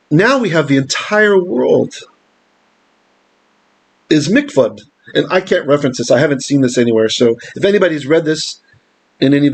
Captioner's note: Hebrew